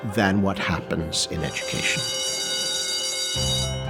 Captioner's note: school bell ringing; piano music playing